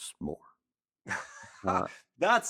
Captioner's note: laughing